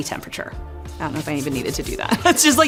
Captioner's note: laughs